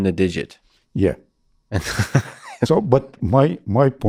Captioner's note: laughing